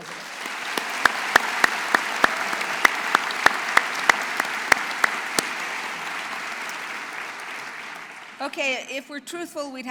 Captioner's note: applause